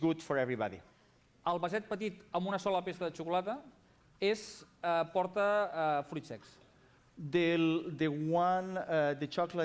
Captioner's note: non-english speech